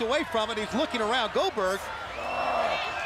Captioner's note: crowd chatter